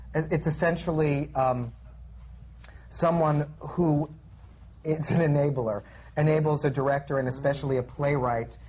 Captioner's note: laughs